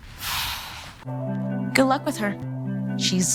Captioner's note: sighing